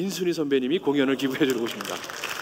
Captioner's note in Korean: 박수 소리